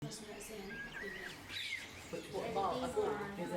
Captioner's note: gentle chatting